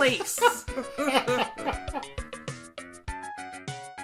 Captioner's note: laughing